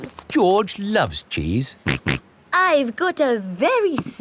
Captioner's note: snorts